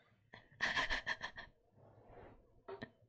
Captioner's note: laughs